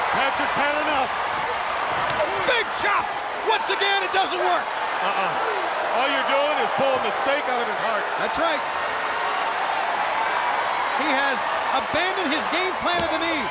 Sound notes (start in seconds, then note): 2.1 chop striking; 9.5 crowd cheering